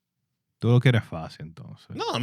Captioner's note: speaking Spanish